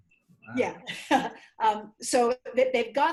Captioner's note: laughs